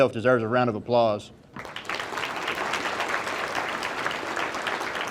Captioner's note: audience applauding